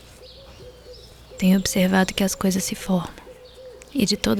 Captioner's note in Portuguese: em off